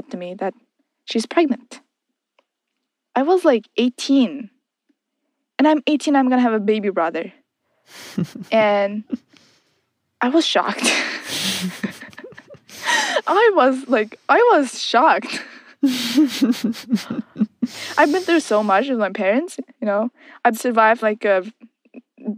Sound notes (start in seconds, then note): 7.9 both laugh; 10.8 both laugh; 15.2 keeps laughing